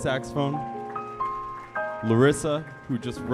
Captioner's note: audience applauding